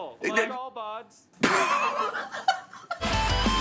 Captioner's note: MatPat laughing; intro music